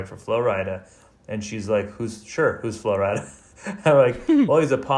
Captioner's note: laughs